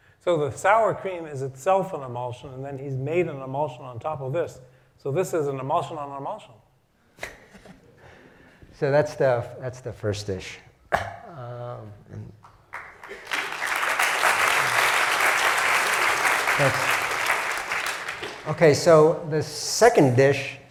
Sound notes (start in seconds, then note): 7.3 laugh; 12.4 applause